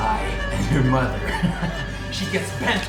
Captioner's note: evil laugh